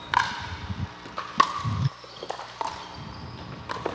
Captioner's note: ball bouncing